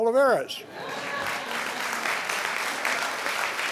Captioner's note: applause